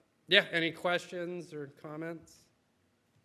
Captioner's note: none